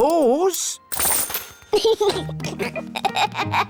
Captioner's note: giggles